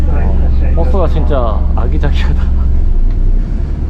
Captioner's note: laughs